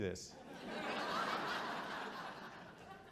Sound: audience chuckles

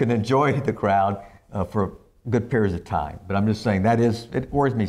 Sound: laughs

